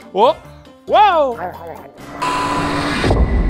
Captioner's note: feral chewing sounds